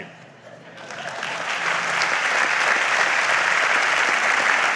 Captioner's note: audience applauds